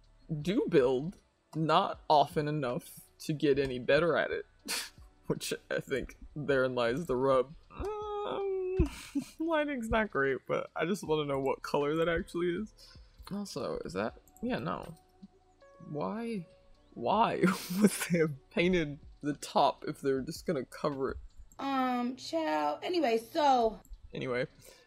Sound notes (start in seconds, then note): 9.7 confused noises